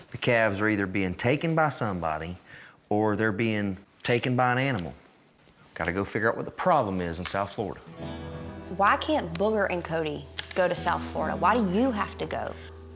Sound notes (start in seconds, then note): none